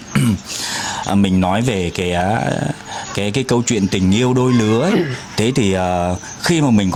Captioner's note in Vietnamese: hắng giọng